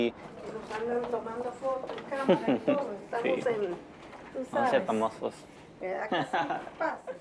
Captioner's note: speaking foreign language; laughs